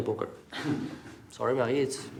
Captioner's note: all laugh